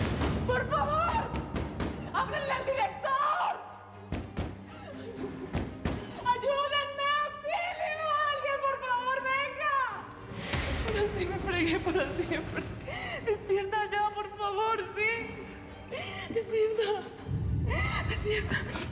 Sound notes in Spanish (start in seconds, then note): 4.1 golpes; 4.6 sollozos